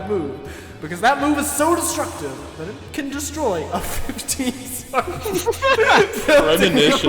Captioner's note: starts laughing